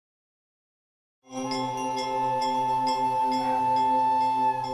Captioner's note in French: son des cloches du temple